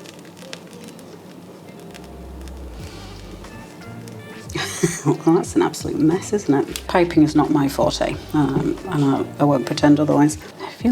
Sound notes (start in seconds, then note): 2.0 laugh